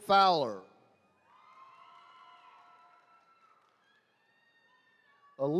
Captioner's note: attendees cheering